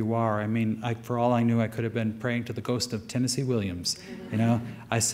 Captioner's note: light audience laughter